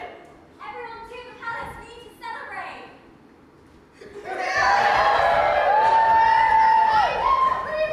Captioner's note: all cheer